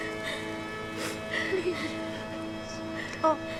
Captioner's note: sobbing quiets